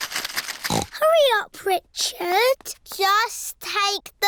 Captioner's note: snorts